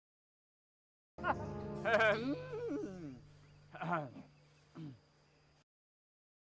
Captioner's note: awkward villainous laughter